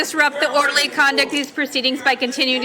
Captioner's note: crowd noise